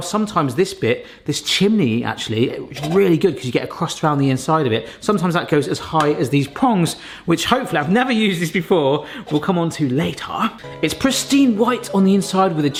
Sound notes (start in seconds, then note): none